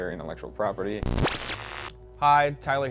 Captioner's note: distorting sound